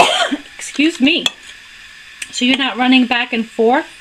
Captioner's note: cough